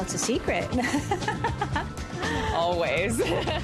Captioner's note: both laugh